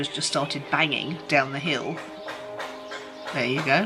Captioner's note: loud banging